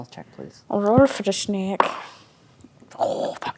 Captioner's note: dice rolling